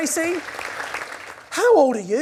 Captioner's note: audience applauding